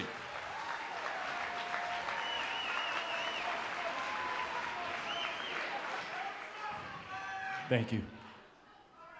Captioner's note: crowd cheering